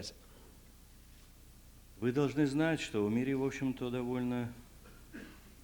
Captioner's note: non-english speech